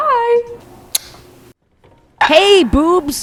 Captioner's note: lips smacking